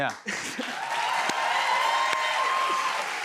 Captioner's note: cheers and applause